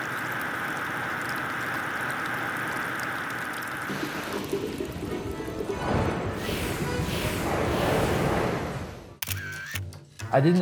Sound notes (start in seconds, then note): 3.3 water running; 3.3 whirring; 8.8 whooshing; 9.2 camera snaps; 10.2 accordion music